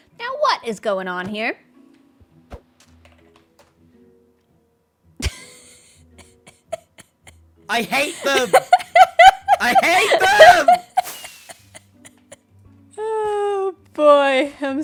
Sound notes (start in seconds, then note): 6.1 laughs